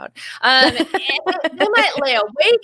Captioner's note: chuckles